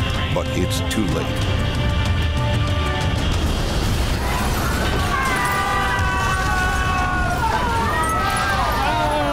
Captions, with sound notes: But it's too late. (plane crashing) (all screaming)